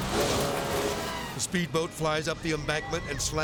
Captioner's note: boat slamming; boat buzzing; dramatic whoosh